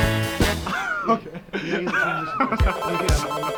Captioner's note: students cheering; student laughing; upbeat electronic music